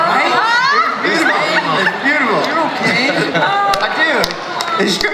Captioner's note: everyone laughs and cheers